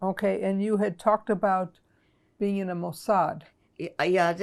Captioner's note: hebrew